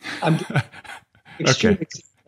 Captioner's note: chuckles